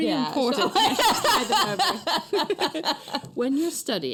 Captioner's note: laughter